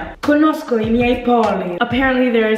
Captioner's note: speaking in Italian